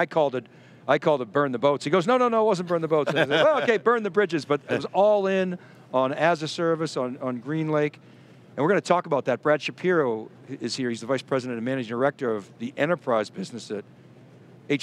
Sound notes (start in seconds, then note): 2.6 laughing